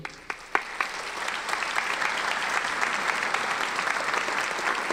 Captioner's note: audience applauding